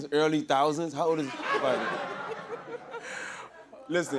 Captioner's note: laughter